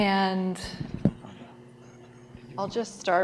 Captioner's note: distant chattering